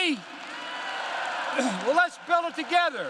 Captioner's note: applause